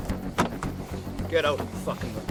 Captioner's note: door thumping; suspenseful music continues; door rattling